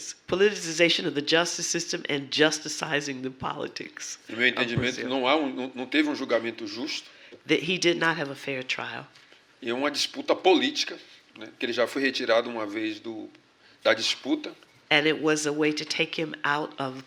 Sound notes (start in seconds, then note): 5.9 speaking portuguese; 12.2 speaking portuguese